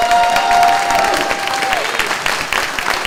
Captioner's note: clapping; cheering